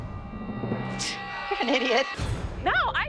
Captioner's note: scoffs